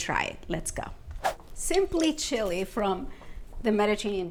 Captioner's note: frame whooshes